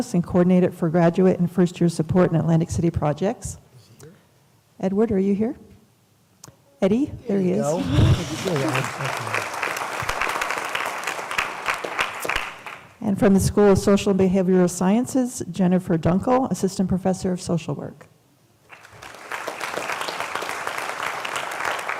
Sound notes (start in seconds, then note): 7.6 applause; 18.7 applause